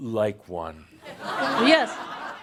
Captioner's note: laughter